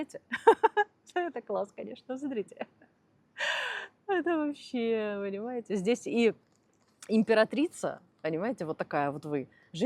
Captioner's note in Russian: смех